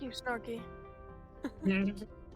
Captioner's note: laughs